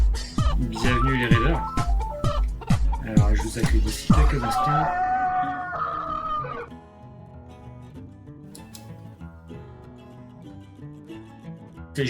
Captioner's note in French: sonnerie de Telephone